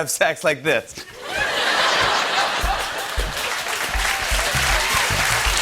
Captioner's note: laughter; cheers and applause